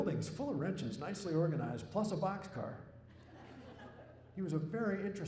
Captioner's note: laughter